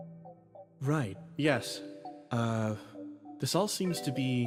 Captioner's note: none